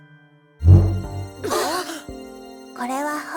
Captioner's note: silence; surprised gasps